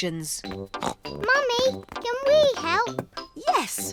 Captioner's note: snorts